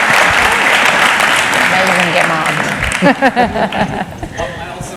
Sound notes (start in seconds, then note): 2.9 laughter